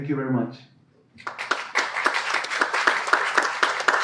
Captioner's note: clapping